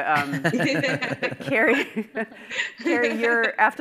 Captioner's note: participants laughing